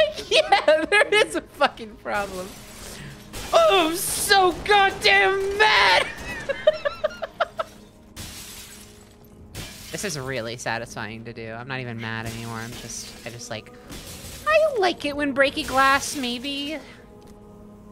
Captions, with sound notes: Like, yeah, there is a fucking problem. Oh, I’m so goddamn mad! [laughing] [shattering glass sounds] This is really satisfying to do. I’m not even mad anymore. I’m just- I just like- like it when breaking glass maybe.